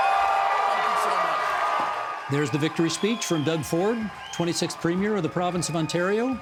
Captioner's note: cheering